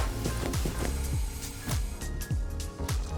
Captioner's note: diving tank sound